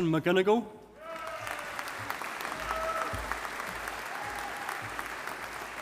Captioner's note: audience applauding